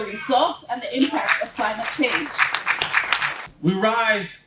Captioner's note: applause